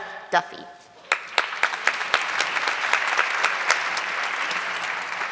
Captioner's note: audience clapping